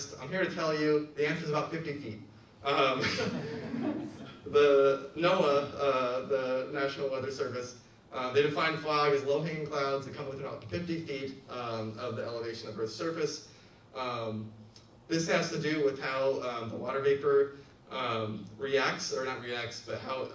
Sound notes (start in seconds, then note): 2.9 laughs; 3.0 audience laughs